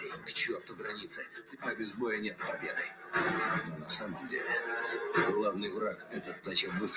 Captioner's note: solider continues speaking in Russian